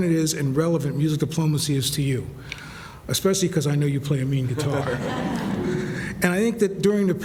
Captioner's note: laughter